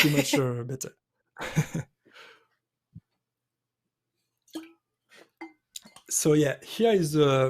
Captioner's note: chuckles